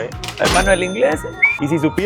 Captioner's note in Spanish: Chiflido bilingüe